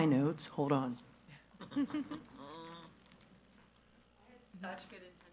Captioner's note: attendees laughing